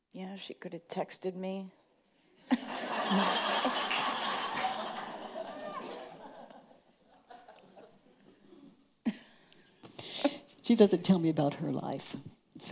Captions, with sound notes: - Yeah she could have texted me. (audience laughing) - She doesn't tell me about her life.